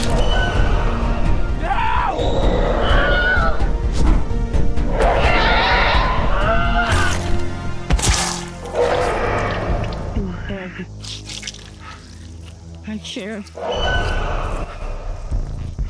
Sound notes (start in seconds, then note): 0.1 claw piercing flesh; 0.1 loud roar; 2.8 scream; 4.1 whoosh; 5.0 loud roar; 6.5 scream; 7.8 body hits ground; 7.9 blood splattering; 7.9 crunchy biting; 11.0 blood gushing, splattering